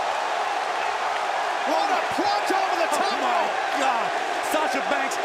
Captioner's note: crowd cheering